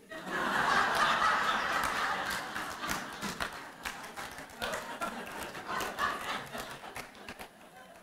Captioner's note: raucous laughter and applause